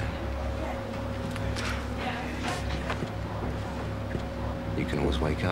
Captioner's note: background people chattering